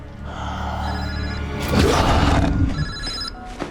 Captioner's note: phone rings